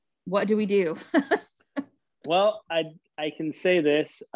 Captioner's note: laughing